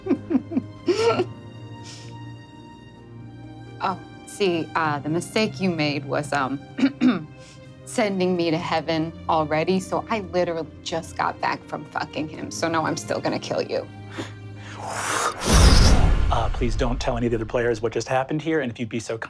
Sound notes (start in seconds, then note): 0.0 laughs; 6.8 clears throat; 14.7 mimics air whooshing